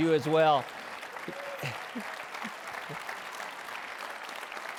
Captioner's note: applause